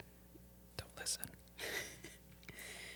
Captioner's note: whispers; chuckles